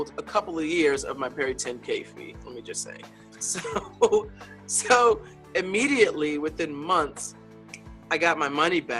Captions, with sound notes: a couple of years of my Peri10K fee, let me just say, so (laughs) immediately within months, I got my money back,